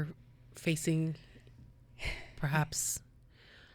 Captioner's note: sighing